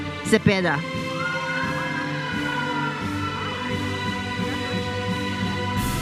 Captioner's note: audience cheers and applauds